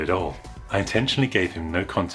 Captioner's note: woosh